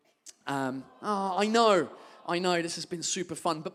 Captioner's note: audience awws